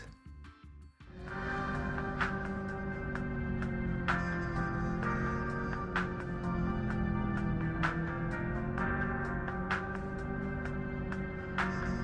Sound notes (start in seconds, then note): 1.1 Ferrari engine sounds